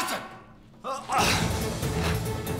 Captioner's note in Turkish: Bağırma sesi